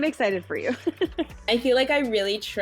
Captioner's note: chuckles